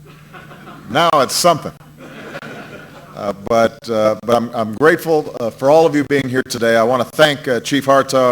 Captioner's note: laughter